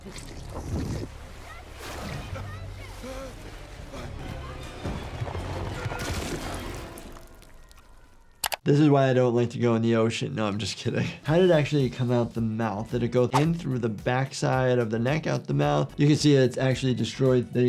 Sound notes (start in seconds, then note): 0.0 water gurgling; 0.2 people chattering; 2.8 swimmer gasping; 4.4 intense music; 5.7 weapon smashing